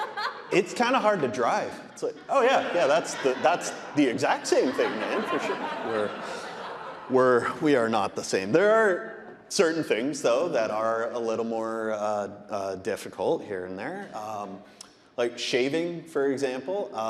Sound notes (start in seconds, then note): 0.2 audience laughing; 5.7 audience laughing